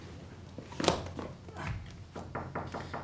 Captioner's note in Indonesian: ketukan berlanjut